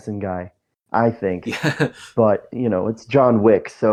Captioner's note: laughs